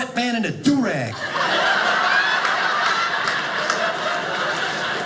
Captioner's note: audience laughing